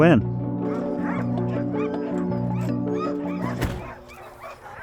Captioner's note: dogs barking